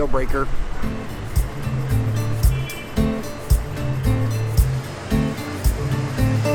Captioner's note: bustling city; chill strumming music